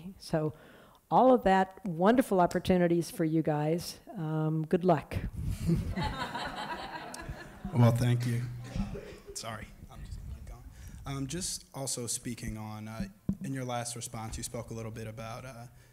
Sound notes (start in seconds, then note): 5.5 laughter